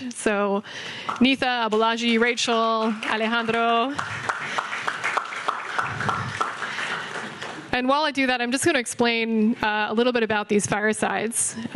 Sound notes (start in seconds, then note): 4.2 audience clapping